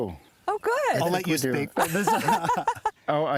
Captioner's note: laughs